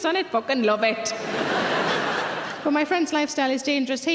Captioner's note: audience laughter